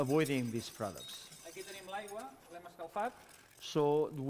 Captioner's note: non-english speech